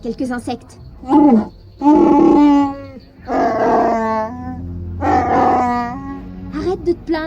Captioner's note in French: en Shyriiwook